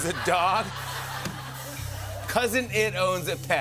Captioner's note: laughter